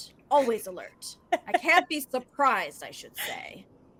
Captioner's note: laughs